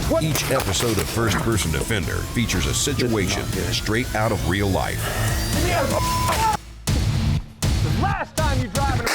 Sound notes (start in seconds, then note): 6.0 screaming